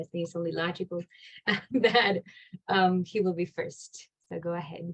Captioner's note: laughs